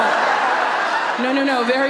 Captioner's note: audience laughs